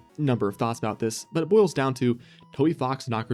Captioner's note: deep breath